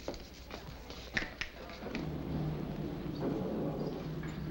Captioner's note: clicking